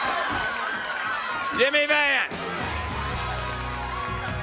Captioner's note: crowd cheering